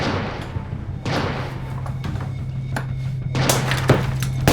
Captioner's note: gunfire